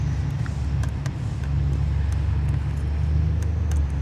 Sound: creaking

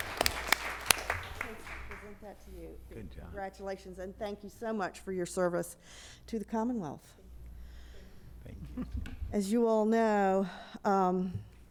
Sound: applause

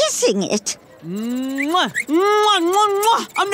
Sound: kissing

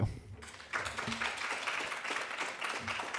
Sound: applause

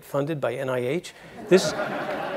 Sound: laugh

